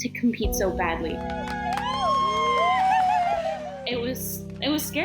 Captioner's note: all cheer